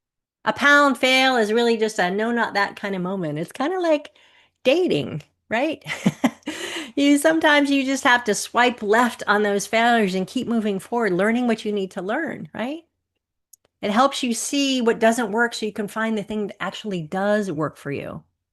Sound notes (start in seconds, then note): 5.8 chuckles